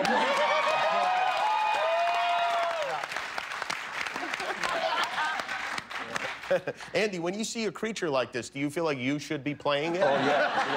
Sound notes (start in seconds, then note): 2.8 cheers and applause